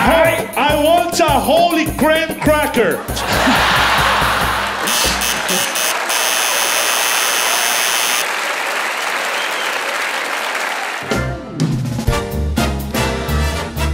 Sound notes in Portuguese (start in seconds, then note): 4.9 campainha; 5.1 aplausos